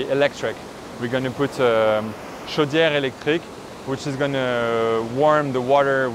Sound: boiler

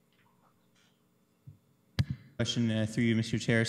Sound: audio drop

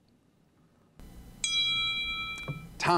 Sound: timer dings

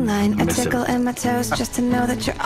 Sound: laughing

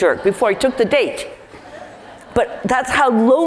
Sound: laugh

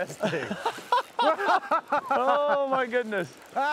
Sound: laughing

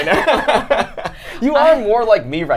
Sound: both laugh

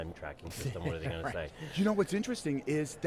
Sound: laughter

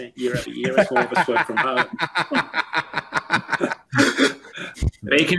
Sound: laughing

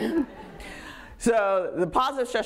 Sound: audience laughing

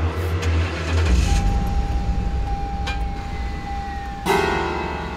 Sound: car starting

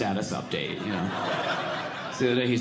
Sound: audience laughing

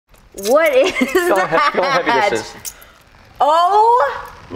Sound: laughs

